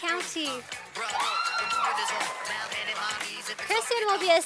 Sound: sound of cheering from audience

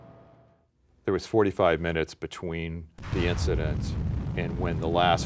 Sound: sound of explosion

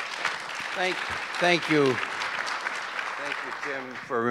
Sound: audience applause

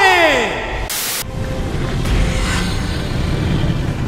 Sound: static

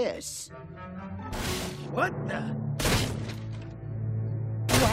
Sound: loud crashing; banging

